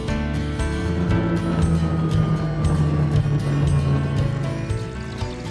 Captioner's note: snowmobile revving